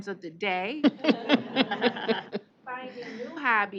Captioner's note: laughing